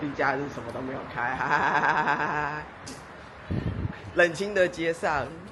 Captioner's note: laughs in hungry despair